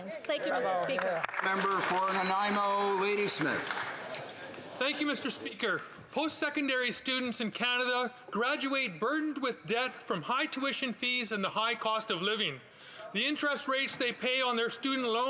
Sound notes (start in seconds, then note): 4.9 applause